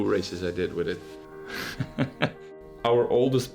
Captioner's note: laughs